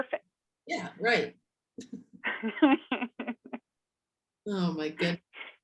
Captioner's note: laughing